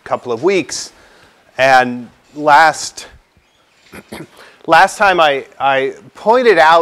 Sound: cough

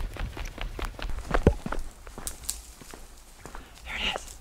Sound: foliage rustling

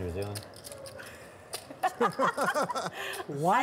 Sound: laughing

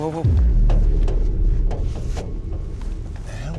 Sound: metal rattling

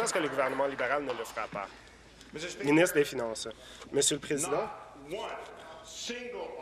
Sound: applause

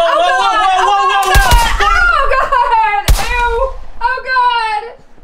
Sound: gun firing

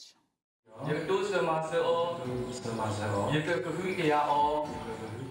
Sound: speaking in foreign language

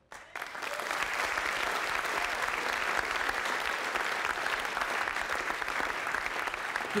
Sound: applause

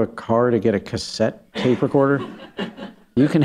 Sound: laughter

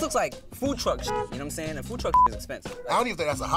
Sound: beep

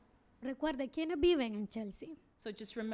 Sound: speaking spanish

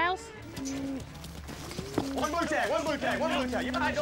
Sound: hoof beats

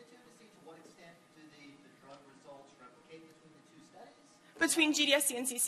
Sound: speaks off-mics

